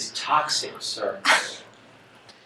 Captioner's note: scoffs